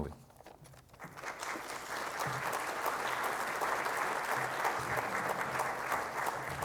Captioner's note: audience applauds